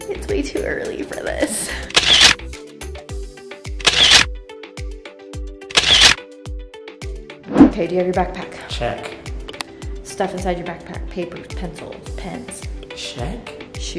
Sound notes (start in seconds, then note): 2.2 camera snapping